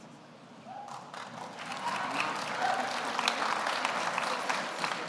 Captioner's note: audience applauds